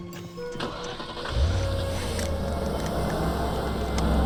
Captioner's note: car engine rumbling